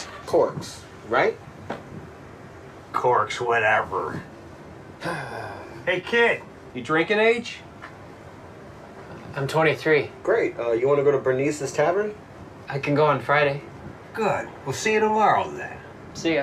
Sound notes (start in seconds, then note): 5.0 Jeff sighs